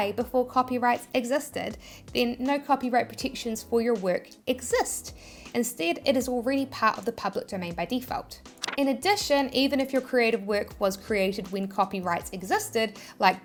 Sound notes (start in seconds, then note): 8.5 paper rustling